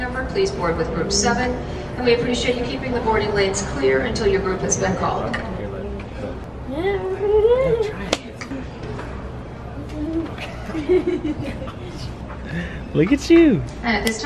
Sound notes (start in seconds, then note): 7.4 giggles; 10.0 laughing